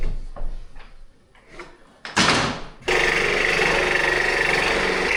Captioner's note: drill whirring